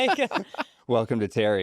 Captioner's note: laughs